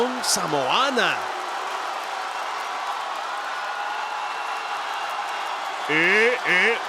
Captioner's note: applause